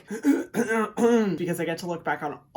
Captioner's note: Hyram coughs